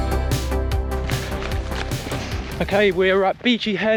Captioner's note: gravel crunches